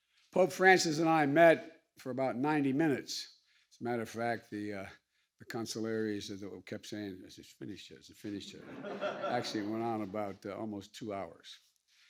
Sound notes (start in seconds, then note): 8.4 laughter